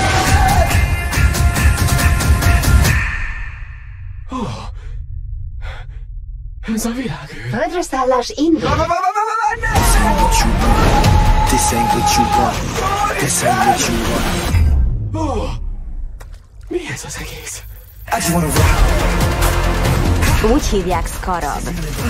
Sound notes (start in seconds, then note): 4.2 gasping; 12.6 yelling; 14.2 gasps